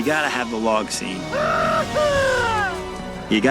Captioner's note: screaming